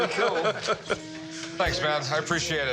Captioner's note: laughter